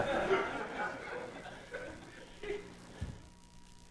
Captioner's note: audience laughing